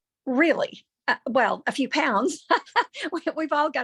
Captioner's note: laughs